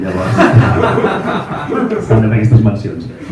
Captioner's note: laughs